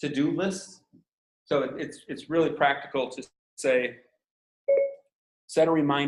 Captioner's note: phone beeping